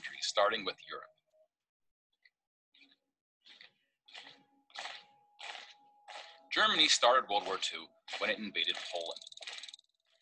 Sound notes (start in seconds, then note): 3.6 marching